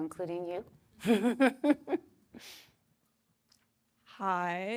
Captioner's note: laughs